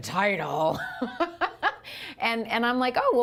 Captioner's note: laughter